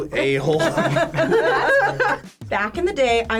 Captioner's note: group laughs